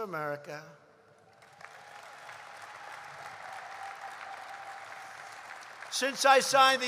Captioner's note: applause